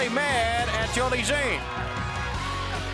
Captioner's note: crowd cheering; bell ringing; crowd cheering